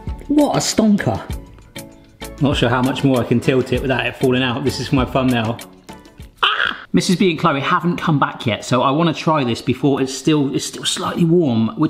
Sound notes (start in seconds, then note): 6.4 screams